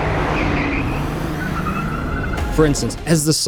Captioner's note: car engine revving